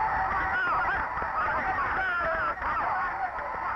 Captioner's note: referee whistling; shouting